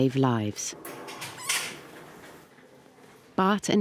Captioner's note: rat squeaks